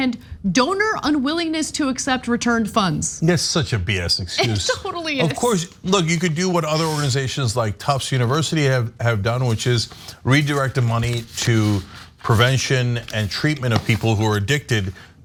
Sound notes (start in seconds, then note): 4.4 laugh